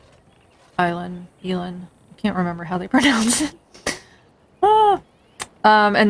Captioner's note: laughs